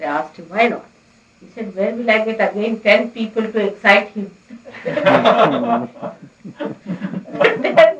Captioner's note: laughter